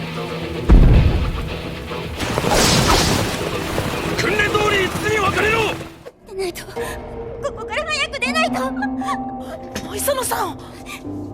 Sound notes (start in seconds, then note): 3.4 rain falling; 3.9 man saying loudly